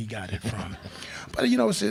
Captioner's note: crowd laughs